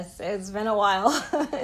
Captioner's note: laughter